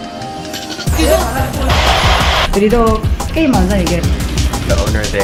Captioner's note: women speaking Korean